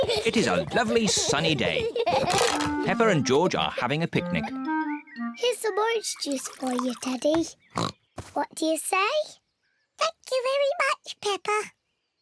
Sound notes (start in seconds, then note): 7.7 oinks; 9.7 in squeaky voice